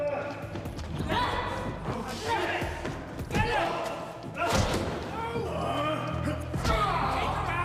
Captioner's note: people groaning; blows thudding; man screaming loudly